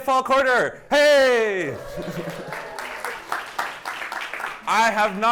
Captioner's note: applause